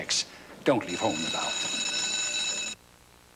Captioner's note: as school bell rings